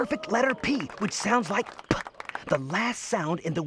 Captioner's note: makes "p" sound